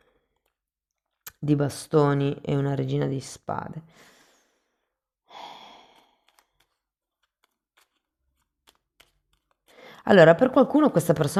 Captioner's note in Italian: sospiri